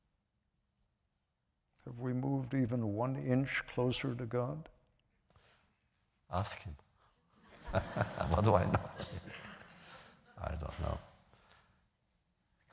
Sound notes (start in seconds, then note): 7.4 laughter